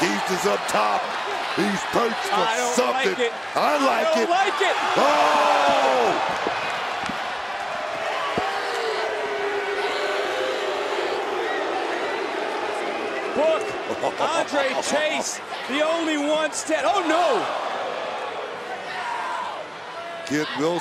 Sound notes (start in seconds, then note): 6.8 crowd boos